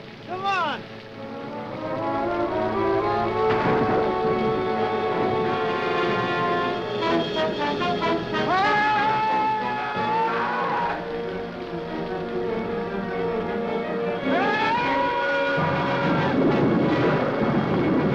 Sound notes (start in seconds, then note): 2.3 dramatic music; 8.3 Mac screaming; 13.5 suspenseful music